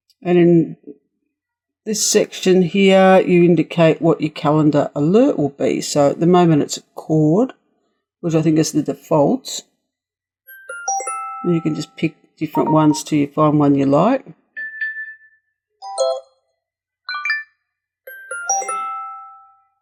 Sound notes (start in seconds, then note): 15.5 sounds of alerts